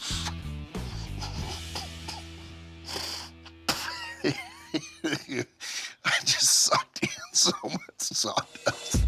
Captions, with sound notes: [coughs] [spits] I just sucked in so much sawdust.